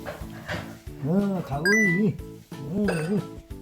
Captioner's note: korean dialect